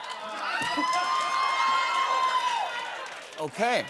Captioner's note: laughter; cheers and applause